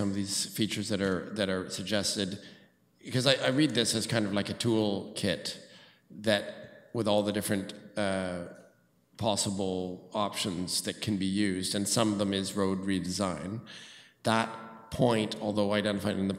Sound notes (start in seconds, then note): none